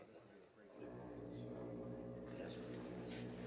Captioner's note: foghorn Continues, Faint